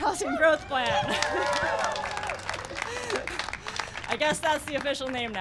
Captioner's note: cheering and applause